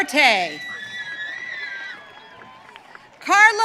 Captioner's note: audience cheering